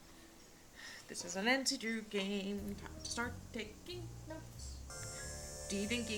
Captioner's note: sing songy